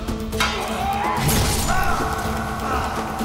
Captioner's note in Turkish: Savaş sesleri